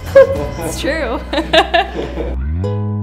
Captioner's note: all laughing; laughs; gentle music